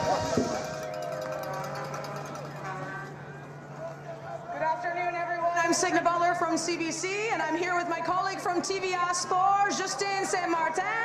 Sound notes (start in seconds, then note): 3.0 cheers and Applause